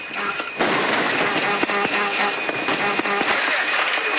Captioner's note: stall alarm